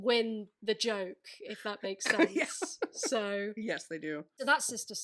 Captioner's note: laughing